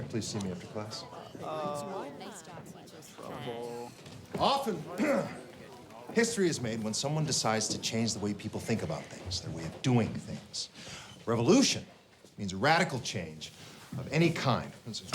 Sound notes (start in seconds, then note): 5.0 clears throat